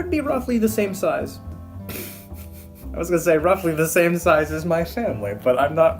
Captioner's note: laugh